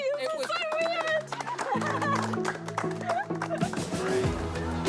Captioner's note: applause